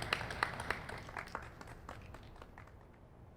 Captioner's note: applause fades out